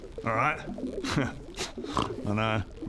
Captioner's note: notice me noises